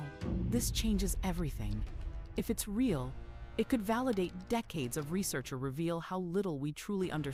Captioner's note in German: tippt auf der Tastatur